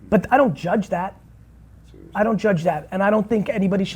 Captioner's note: none